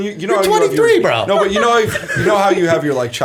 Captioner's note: laughter